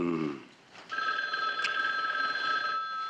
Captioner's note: phone ringing